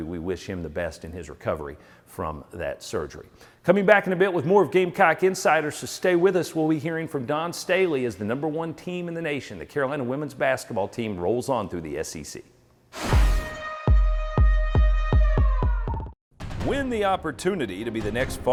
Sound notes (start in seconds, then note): 13.4 siren